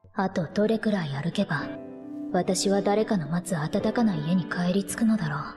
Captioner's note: speaking in foreign language